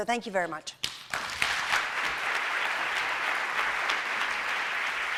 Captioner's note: applause